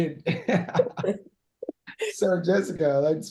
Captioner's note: laughing